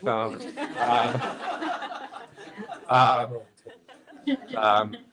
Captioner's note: all laughing